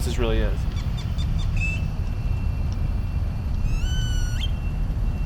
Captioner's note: birds calling